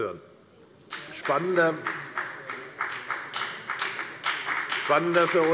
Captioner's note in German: Beifall bei der FDP